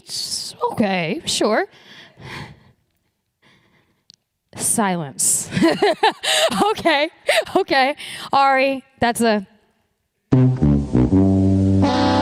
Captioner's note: laughs